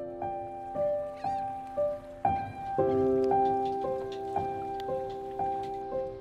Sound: seagulls squawking; calm piano music

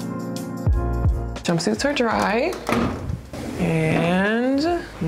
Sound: door thumps

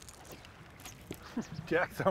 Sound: rod whipping; reel cranking; chuckling

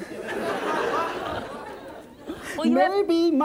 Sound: laughter

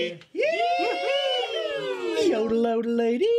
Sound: all cheer; yodels

